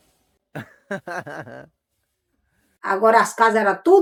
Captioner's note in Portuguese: Risos